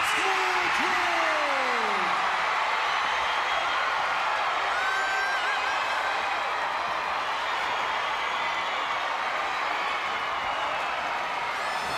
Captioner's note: crowd cheering